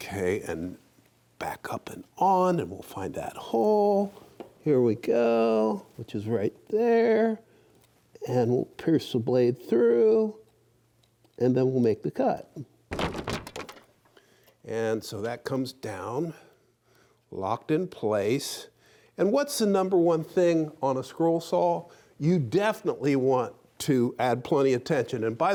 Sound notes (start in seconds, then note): 12.9 wood clattering